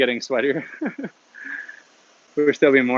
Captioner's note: laughs